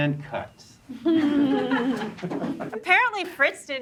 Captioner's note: group chuckling